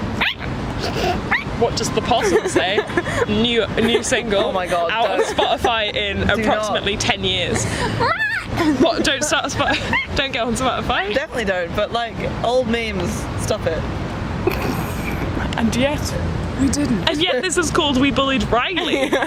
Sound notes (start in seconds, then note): 0.0 squawks; 8.1 squawks; 14.7 snorts